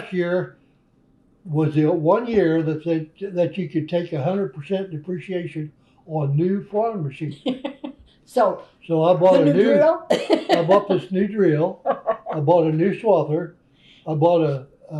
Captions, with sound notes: Last year was the one year that you could take 100 percent depreciation on new farm machinery. So, need a drill? (Laughs) I bought this new drill. I bought a new swather. I bought a new…